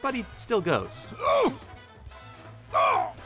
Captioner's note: grunting